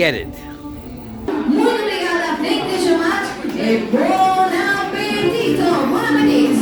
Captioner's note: speaking in foreign language